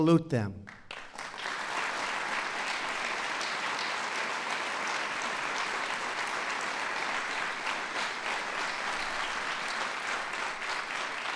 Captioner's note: applause